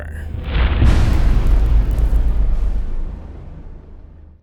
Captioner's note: impact